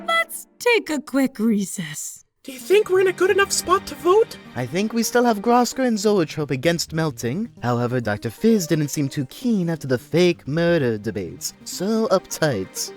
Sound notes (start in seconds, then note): 2.3 whispering